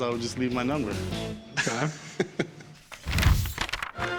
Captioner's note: chuckle